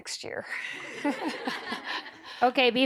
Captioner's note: laughter